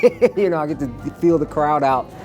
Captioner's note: laughs